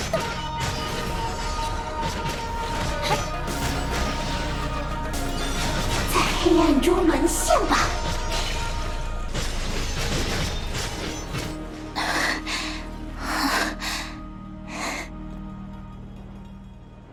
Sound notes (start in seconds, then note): 14.7 panting